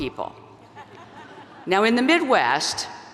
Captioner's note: audience laugh